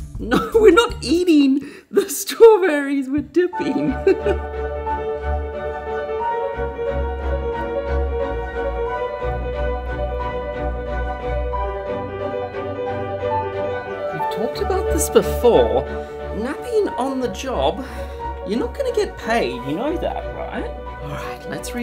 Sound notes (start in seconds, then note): 3.4 laughs; 6.0 upbeat music